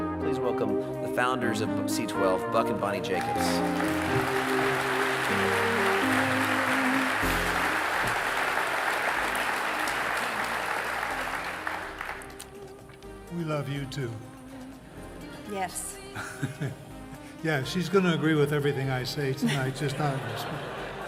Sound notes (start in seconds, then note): 3.1 audience clapping; 3.2 audience cheering; 16.1 laughs